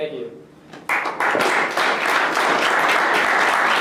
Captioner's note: applause